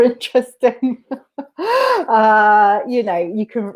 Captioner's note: laughs